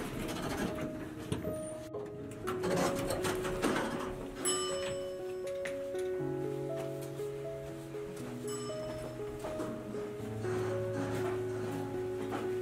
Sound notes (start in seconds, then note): 4.5 elevator dings